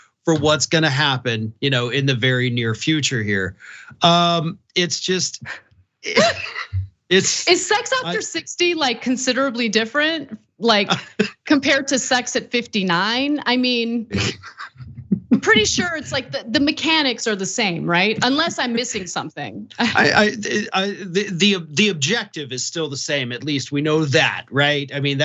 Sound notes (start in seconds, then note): 6.1 laugh; 14.1 laugh